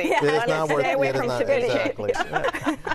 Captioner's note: laughter